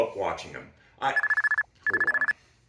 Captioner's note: phone ringing